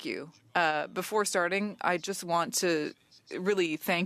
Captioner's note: speaking French